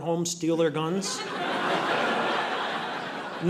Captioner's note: audience laughing